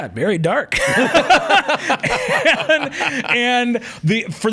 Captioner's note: both laughing